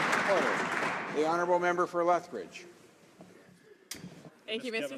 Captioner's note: some Applause